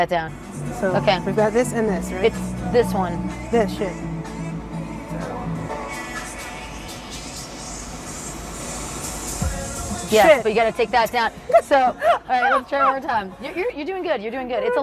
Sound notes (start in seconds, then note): 7.5 beat accelerates; 11.4 laughs